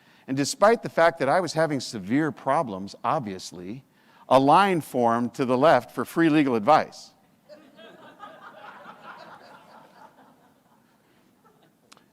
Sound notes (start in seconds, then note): 7.5 audience laughs